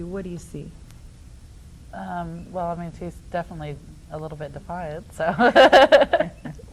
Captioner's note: laughs